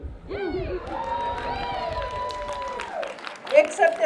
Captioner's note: cheering